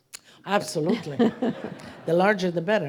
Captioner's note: audience laughing